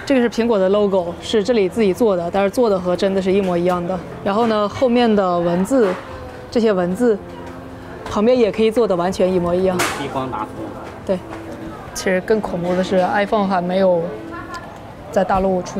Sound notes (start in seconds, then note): 0.2 speaking in Chinese; 9.8 store owner speaking in Chinese; 12.2 speaking in Chinese